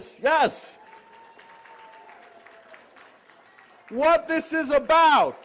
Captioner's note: applause